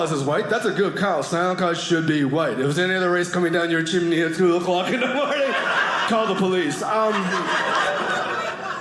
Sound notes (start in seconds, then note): 7.0 audience laughing